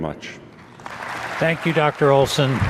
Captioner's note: audience applauding